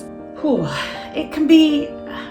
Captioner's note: big exhale